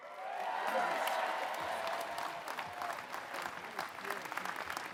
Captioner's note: applause